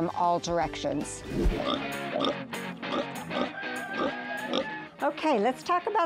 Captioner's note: upbeat music; pig oinking